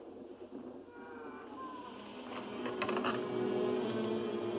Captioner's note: secret door creaks open; ominous music